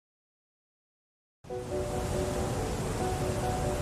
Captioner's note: current rushes powerfully